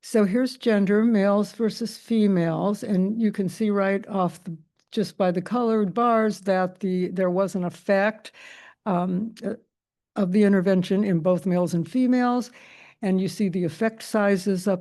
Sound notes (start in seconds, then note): none